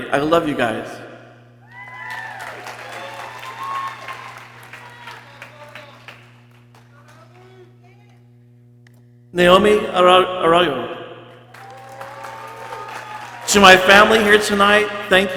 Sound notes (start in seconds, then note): 1.6 people cheering; 4.8 people exclaiming and chattering; 11.4 people cheering